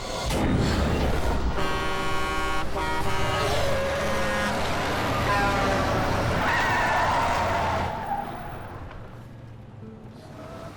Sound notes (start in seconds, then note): 1.3 horn honking; 6.8 tires screech